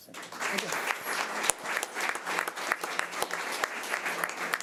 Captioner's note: audience applause